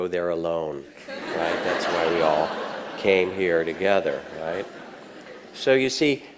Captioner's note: audience laughs